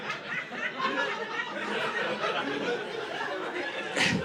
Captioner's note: audience laughing